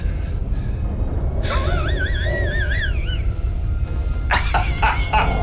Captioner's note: laughs